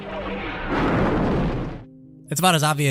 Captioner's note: explosion